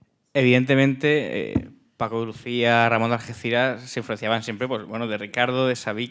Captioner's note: speaking in Spanish